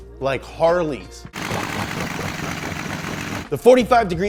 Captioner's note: motorcycle engine revving